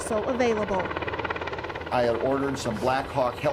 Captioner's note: helicopter whirring